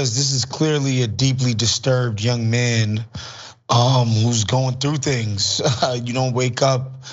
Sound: laugh

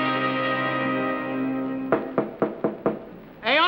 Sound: knocking

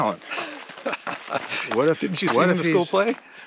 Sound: laughing

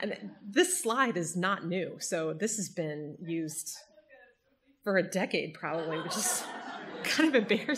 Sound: audience laughter

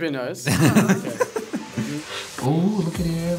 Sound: laughs

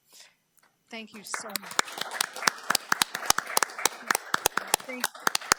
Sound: audience clapping

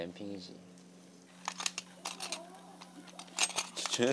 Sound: A faint fighting sound

